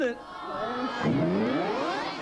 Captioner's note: kids jeering